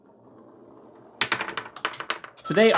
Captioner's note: marbles rolling then clicking; ting